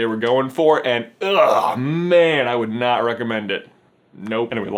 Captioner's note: disgusted noises